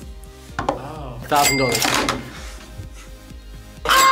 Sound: cash register dings; both scream

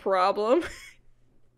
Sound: laughs

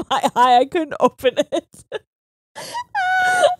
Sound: both laughing

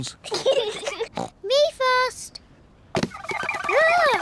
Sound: snorts

